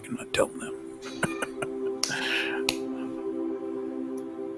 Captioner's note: laughs